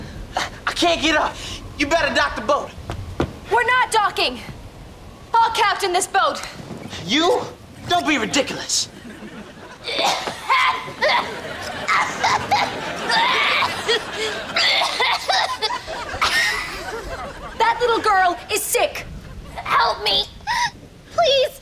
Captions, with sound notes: I can't get up. You better dock the boat. We're not docking. I'll captain this boat. You? Don't be ridiculous. [coughing] That little girl is sick. Help me! Please!